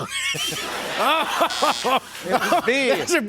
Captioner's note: buzzer